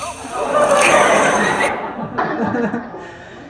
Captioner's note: laughter